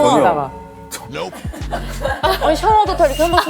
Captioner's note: disgusted